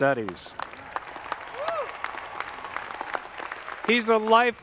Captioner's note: audience clapping